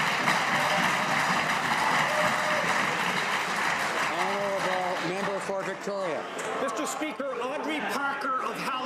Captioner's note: some Applause